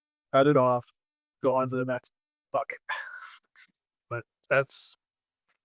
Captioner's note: none